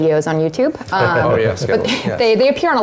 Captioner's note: laugh